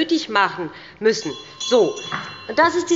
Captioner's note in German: Unruhe – Glockenzeichen des Präsidenten